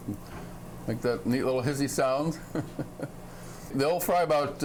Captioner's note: chuckling